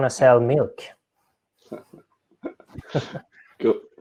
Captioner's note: laughing